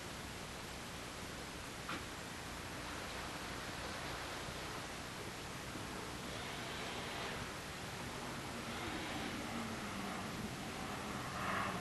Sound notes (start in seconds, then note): 3.2 engine being put in gear and bow thruster noises - sounds